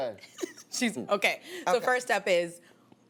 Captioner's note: laughs